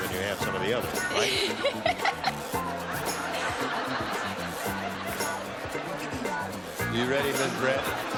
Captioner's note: laughter